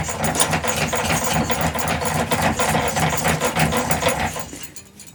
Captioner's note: metal clanking